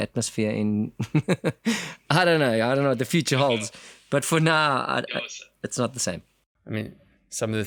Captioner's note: laugh